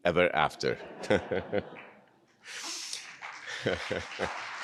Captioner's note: audience laughing; chuckling; audience applauding